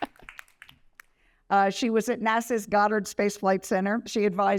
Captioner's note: applause